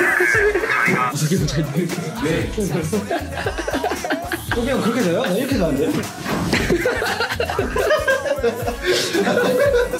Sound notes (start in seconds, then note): 3.0 snickers; 3.9 laughs